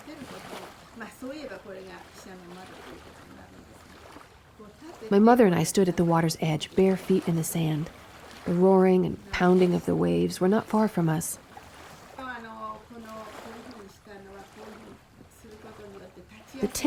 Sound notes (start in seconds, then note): 0.1 speaking in foreign language; 11.8 water splashing; 13.7 speaking in foreign language